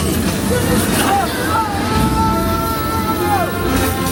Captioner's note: shouting